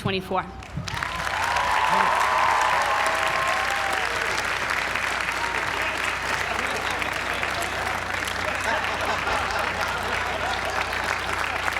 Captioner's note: applause